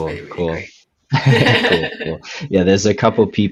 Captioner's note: laughing